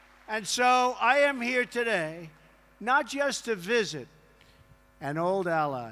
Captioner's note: applause